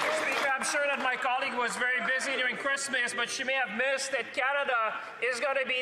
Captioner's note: speaking French